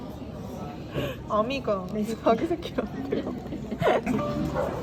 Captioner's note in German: Laughs